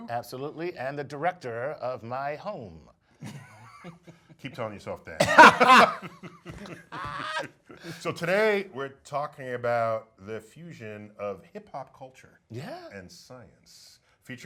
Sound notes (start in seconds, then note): 5.2 laughs